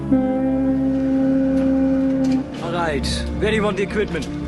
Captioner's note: Ship Horn духа